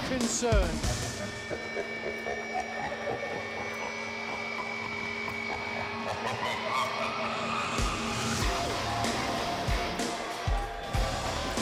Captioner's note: evil laughter